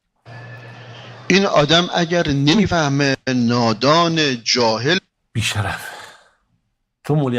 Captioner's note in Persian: صدای آه